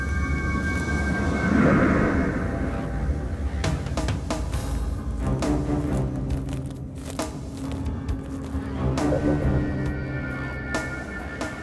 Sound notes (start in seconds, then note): 0.2 dramatic music; 3.8 footsteps crunching; 4.2 suspenseful music